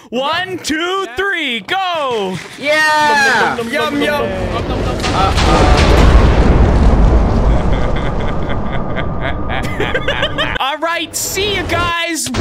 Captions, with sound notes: One, two, three, go! - Yeah! - Yum, yum, yum. (explosion) (ominous laughing) (laughing) All right, see ya guys.